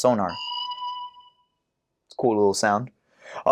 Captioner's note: chime